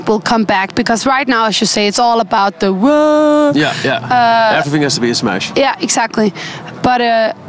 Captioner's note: wooo